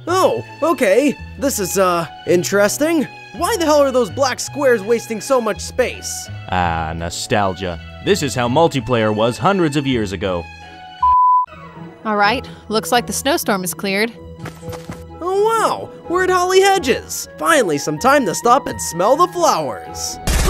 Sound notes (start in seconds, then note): 11.0 beep; 20.2 gun shots firing